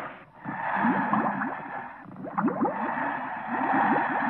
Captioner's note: breathing